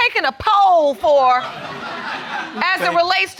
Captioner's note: audience laughing